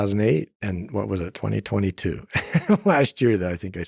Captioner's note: laughs